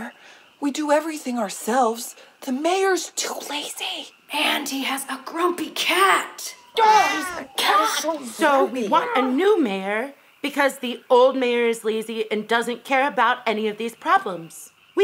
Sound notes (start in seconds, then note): 6.8 cat meows